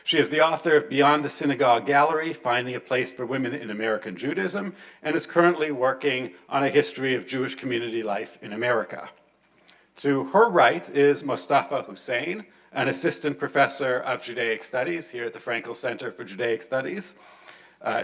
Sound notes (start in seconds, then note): none